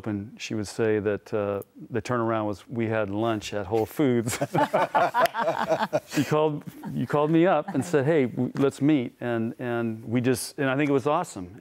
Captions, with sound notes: she would say that the turnaround was, we had lunch at Whole Foods. (laughter) You called me up and said, hey, let's meet. And I think it was awesome.